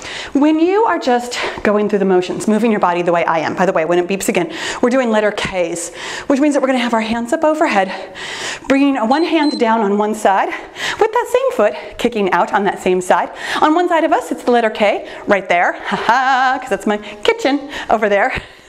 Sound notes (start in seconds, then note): 9.0 timer beeps; 18.0 laughing